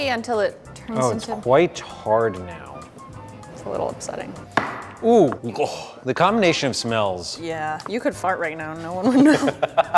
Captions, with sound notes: until it turns into-- - Oh, it's quite hard now. - It's a little upsetting. - (groans) The combination of smells. - Yeah, you could fart right now and no one would know.